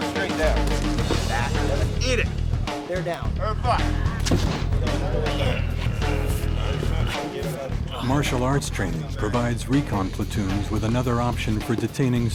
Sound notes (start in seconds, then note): 0.0 upbeat music; 8.4 voiceover